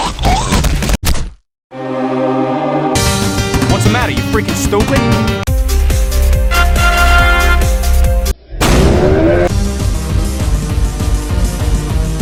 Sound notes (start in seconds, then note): 8.5 explosion